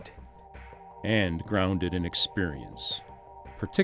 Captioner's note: voiceover